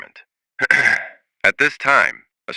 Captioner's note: clears throat